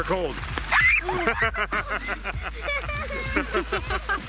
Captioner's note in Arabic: يضحك